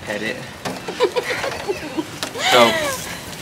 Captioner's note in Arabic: تضحك